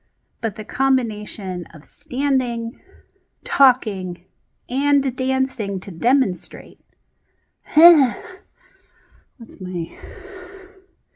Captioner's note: sighs